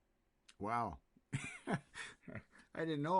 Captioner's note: laughs